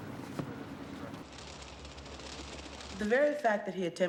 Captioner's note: wings flapping